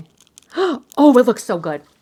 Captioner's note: gasps